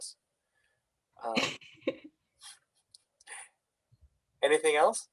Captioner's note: chuckles softly